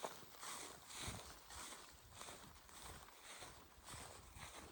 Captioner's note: footsteps